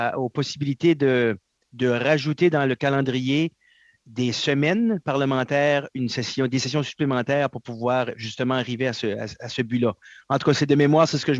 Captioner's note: speaking French